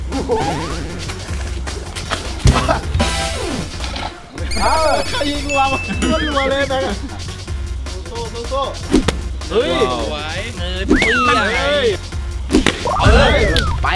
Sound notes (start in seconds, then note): 0.3 upbeat music continues; 2.4 coughs; 8.9 blows